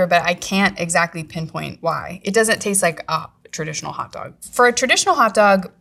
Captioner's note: none